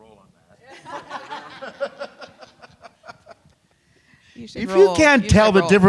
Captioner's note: group laughing